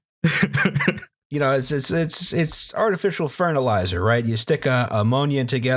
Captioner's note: laughter